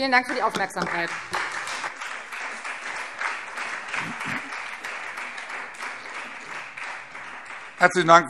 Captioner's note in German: Beifall Freie Demokraten und SPD